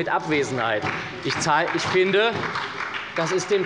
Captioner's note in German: Beifall bei Abgeordneten der SPD